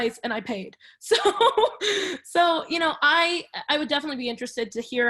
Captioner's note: laughs